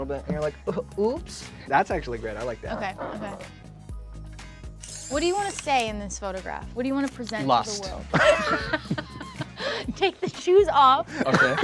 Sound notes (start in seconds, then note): 3.8 upbeat music; 4.8 camera clicks; 8.0 all laughing